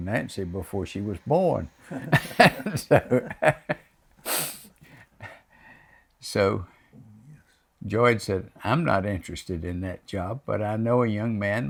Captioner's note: laughs